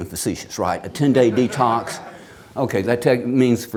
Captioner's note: audience laughs